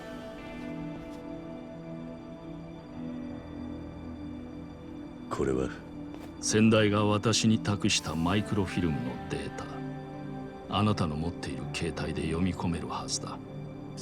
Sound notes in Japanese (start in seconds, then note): none